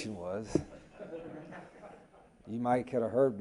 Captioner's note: reporters laugh